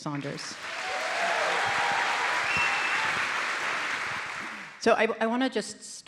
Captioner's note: audience applauds and cheers